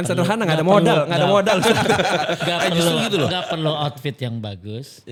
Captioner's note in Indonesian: tertawa